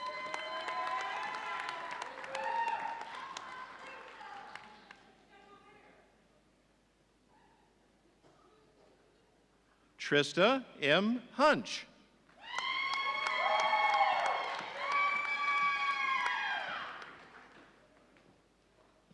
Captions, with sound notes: (audience cheering) Trista M. Honc. (audience cheering)